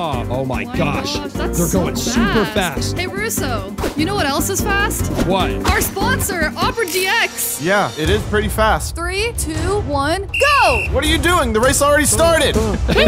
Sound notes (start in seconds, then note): 10.2 whistle blows